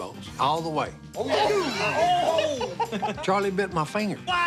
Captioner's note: laughter